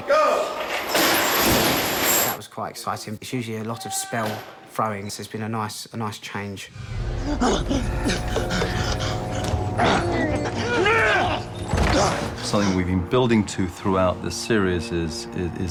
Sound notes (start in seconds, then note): 8.1 harry panting; 9.7 both grunting